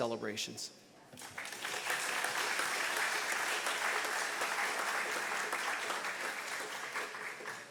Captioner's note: audience applause